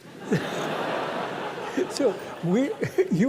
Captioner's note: laughter